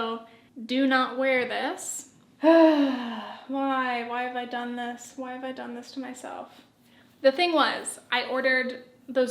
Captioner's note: sigh